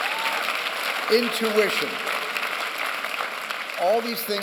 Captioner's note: applause